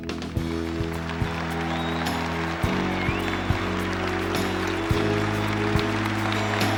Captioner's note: audience applauding; audience cheering